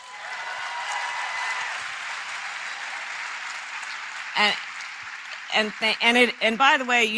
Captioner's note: applause